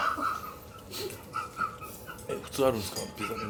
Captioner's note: laughs